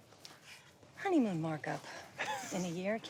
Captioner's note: Jonathan chuckles